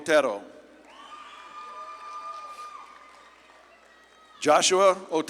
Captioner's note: audience claps and cheers